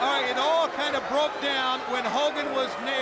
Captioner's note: crowd chatter; crowd cheering